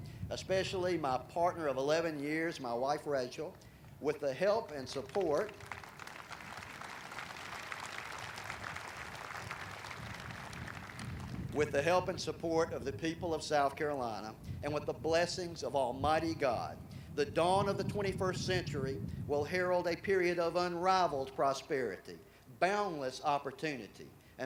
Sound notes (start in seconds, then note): 4.9 audience applauding